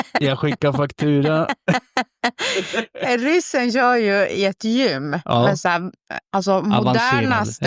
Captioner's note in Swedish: skratt